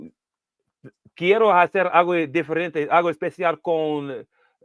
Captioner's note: speaking spanish